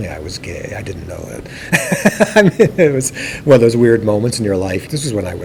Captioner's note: laughs